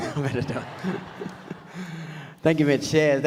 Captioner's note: audience laughs